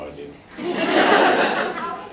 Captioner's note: laughs